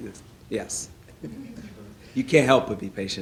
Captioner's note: laughing